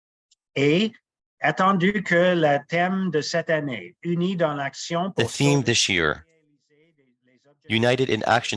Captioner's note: speaking French